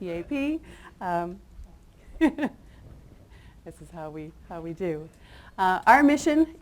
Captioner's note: chuckles